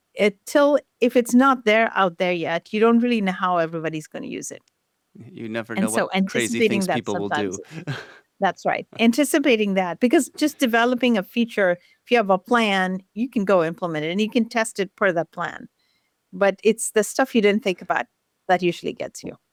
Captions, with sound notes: If it's not out there yet, you don't really know how everybody's going to use it. -You never know what- -And so anticipating that sometimes ... crazy things people will do. [chuckles] That's right. Anticipating that, because just developing a feature, if you have a plan, you can go implement it, and you can test it per the plan. But it's the stuff you didn't think about that usually gets you.